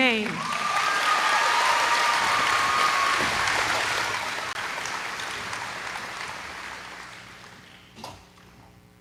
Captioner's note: applause